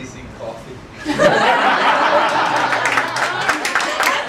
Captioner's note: laughter